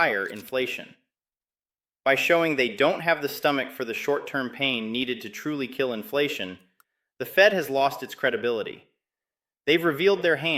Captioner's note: sarcastic